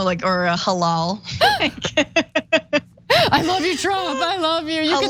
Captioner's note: laugh